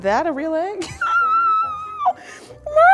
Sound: squealing

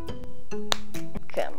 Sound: pen snapping

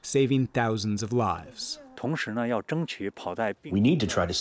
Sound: through translator

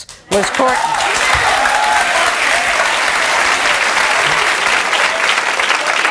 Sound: audience cheering and clapping

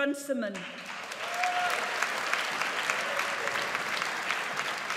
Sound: audience applauds

